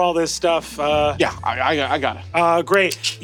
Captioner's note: clicks tongue